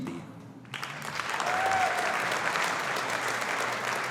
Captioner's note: audience applauding